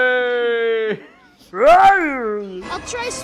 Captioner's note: Rats Tyrell like growl